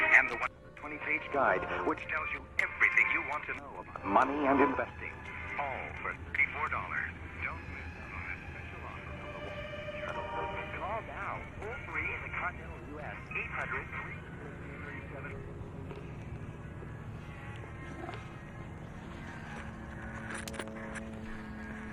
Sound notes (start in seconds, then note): 9.9 radio retunes